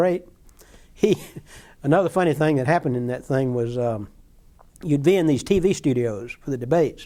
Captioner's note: chuckling